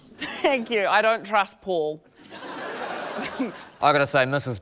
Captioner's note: laughter